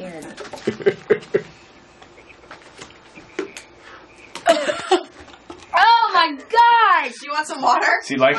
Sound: coughs

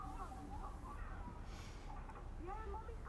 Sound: sounds of tv

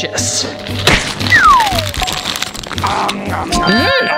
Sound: whistle

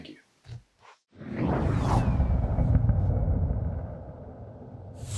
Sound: logo swooshing

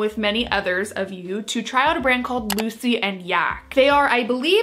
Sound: mouse clicks

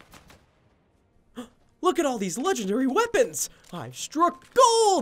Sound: gasping

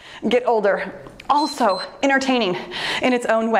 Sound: timer beeps

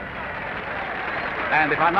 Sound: applause

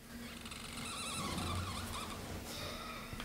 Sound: marker noise

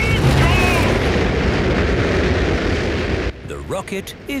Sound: rockets blasting

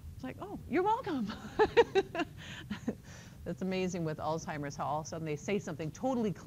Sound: laughter

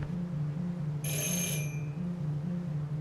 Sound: doorbell rings

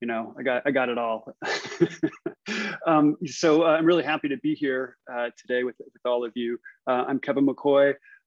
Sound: laughs

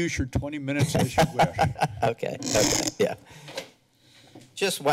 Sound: laughs

